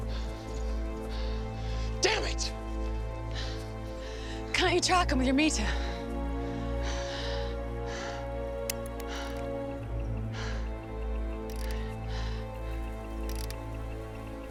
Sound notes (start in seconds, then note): 8.4 clicking faintly